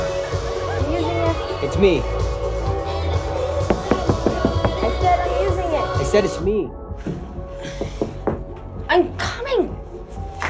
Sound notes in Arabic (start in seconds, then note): 7.8 طرق